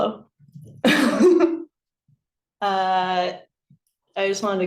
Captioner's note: laughs